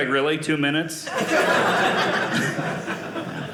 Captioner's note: audience laughing